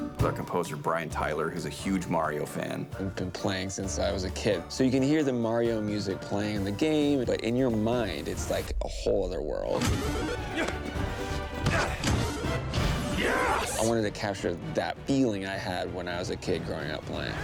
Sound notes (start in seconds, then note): 9.7 orchestra playing; 10.2 grunting; 13.2 power-Up sound